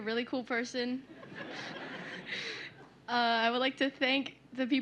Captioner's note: laughter